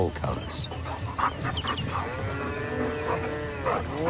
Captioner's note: panting